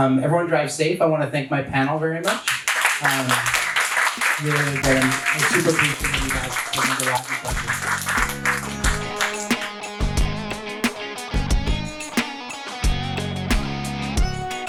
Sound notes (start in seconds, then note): 2.2 audience applauds; 8.9 jazzy rock music